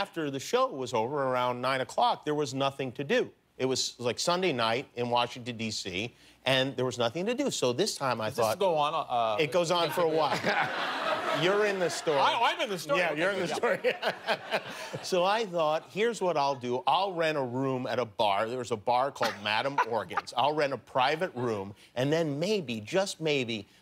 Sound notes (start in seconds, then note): 13.4 laughter